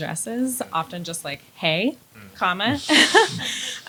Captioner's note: laughs